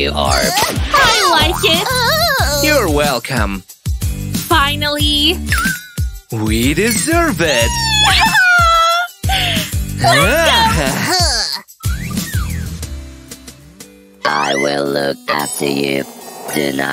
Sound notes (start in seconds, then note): 7.4 happy screams